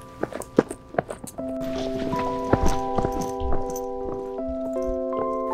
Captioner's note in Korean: 달리는 발소리